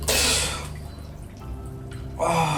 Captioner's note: Derek gasping